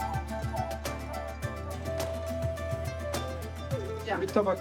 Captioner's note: speaking Turkish